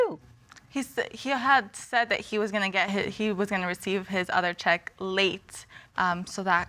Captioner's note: stammers